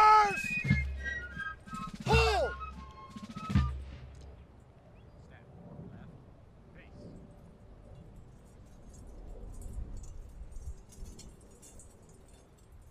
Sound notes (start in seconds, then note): 5.2 medals clinking